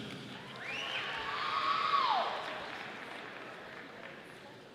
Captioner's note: audience applauding